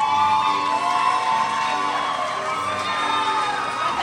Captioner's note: crowd cheers